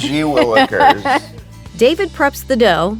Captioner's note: laughing